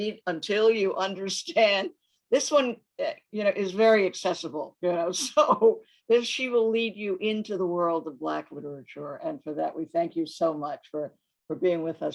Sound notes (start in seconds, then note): 4.8 laughs